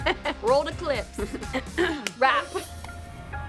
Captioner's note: laughs; clears throat; upbeat music continues